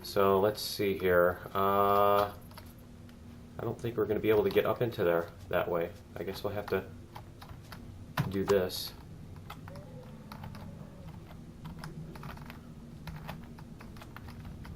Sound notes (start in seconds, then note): none